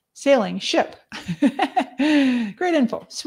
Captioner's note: laughs